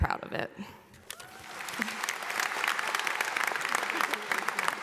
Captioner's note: audience applauding